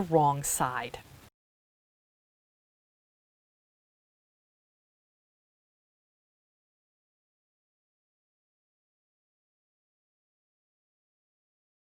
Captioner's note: no Sound Present